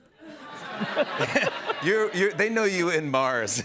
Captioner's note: laughter